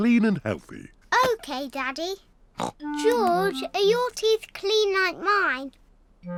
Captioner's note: snorts